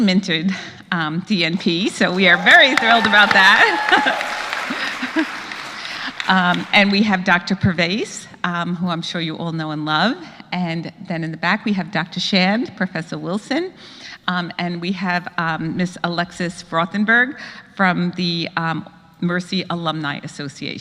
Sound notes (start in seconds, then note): 2.1 applause; 2.3 laugh